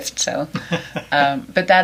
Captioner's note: laughs